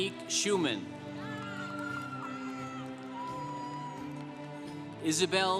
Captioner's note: congregation applauding